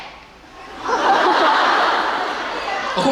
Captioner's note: laughing